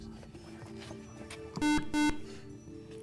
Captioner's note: buzzer